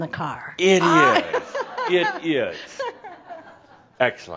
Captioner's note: more chuckles